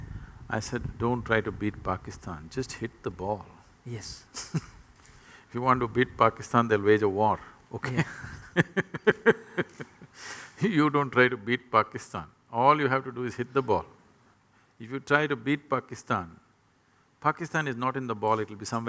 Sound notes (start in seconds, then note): 7.8 laughs